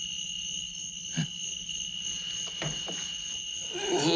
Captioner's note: insects chirping